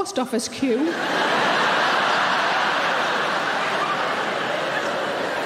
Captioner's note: audience laughing